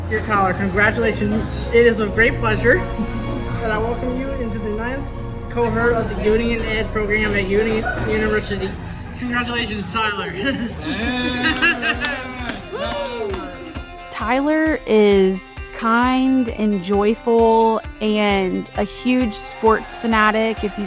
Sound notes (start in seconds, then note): 11.3 people cheering